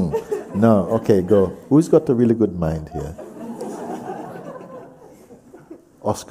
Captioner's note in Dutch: gelach